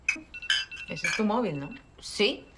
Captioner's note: phone